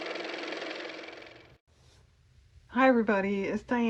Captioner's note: car motor